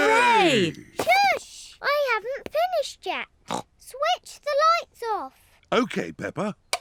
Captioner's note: snorts